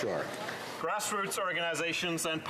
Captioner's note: some Applause